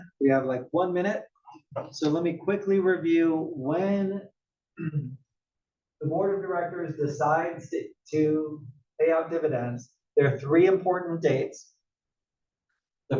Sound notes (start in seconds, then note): 4.8 cough